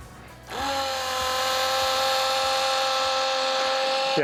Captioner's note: pump roaring